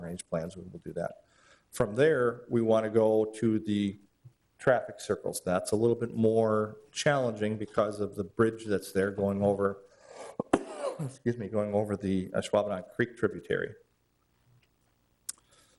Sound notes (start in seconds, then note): 10.2 coughs